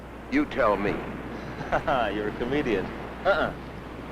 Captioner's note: chuckling